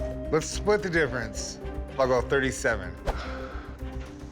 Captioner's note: sighs